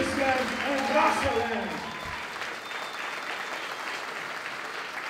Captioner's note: applause